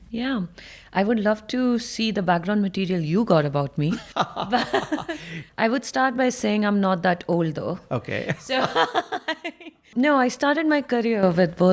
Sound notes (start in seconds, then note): 4.2 chuckling; 8.0 laughing